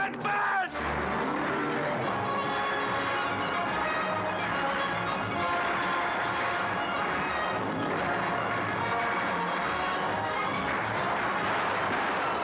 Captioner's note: sounds of battle; dramatic orchestral music